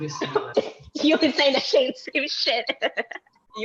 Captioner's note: laughs